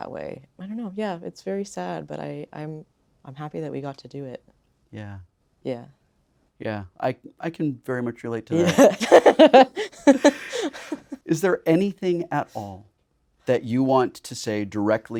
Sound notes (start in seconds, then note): 8.5 Blu laughing